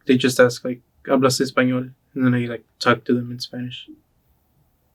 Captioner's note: speaks Spanish